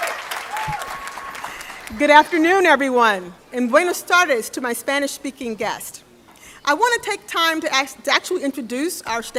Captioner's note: applause